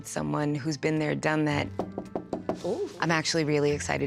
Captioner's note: knock on door